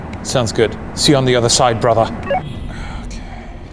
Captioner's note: in Scottish accent